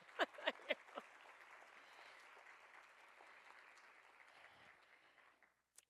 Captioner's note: applause